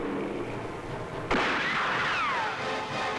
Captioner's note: Gunshot